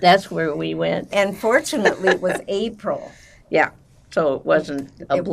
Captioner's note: laughing